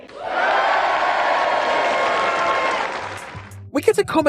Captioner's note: audience Cheers